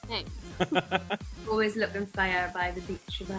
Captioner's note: laughs